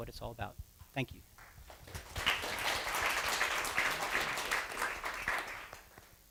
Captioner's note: applause